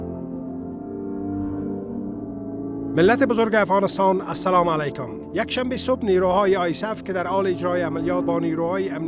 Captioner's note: soundbite of archived recording